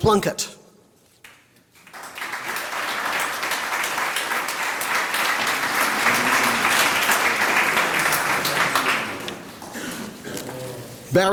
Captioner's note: applause